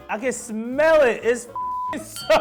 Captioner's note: beep